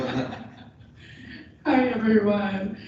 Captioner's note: laughter